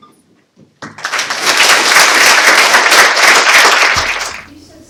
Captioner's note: audience members applauding